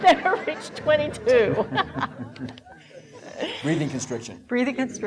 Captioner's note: laughing